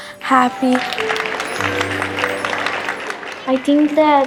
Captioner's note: applause